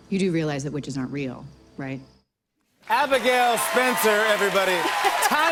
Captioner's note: cheers and applause